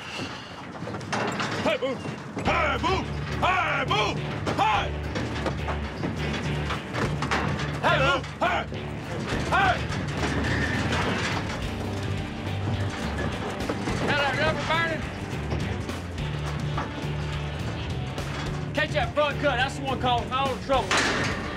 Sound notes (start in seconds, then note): 4.3 bull pounding in trailer; 10.6 bulls fighting, trailer shaking